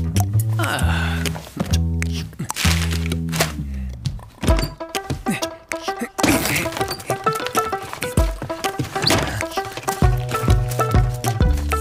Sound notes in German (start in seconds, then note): 6.2 stöhnt